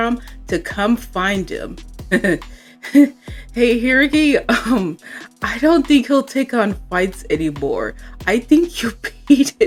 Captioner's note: laughs